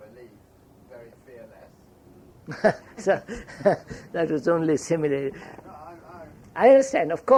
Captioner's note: laughs